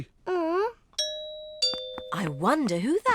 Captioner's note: groans; doorbell